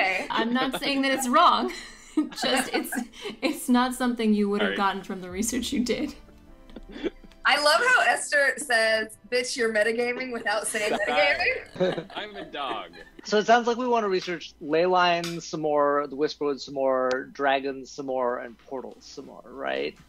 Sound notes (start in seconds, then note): 6.8 laughs; 11.9 laughter